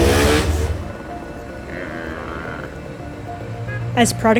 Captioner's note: traffic noise